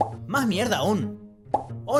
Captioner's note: pop!